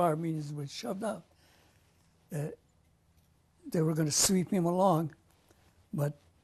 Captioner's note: pauses for 3 seconds